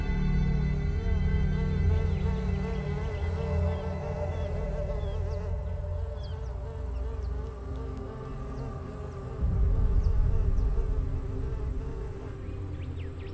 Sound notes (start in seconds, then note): 0.7 birds chirping; 0.7 flies buzzing; 7.7 ominous music